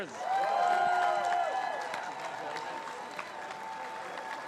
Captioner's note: crowd cheers